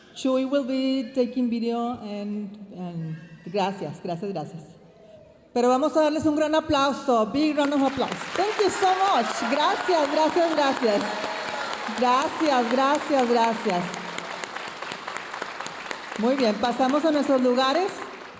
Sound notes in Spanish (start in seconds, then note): 0.2 hablando en inglés; 7.3 hablando en inglés; 14.2 aplausos de la audiencia